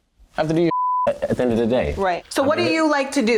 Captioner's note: beep